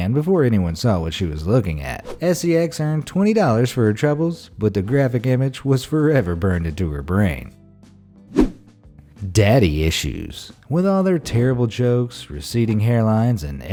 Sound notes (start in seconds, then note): 7.6 gentle music; 8.3 air whooshing